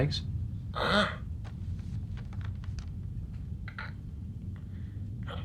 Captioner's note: groans and strains